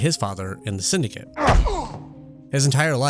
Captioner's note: vicious grunts in pain; thud